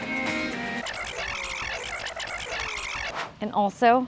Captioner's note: record scratches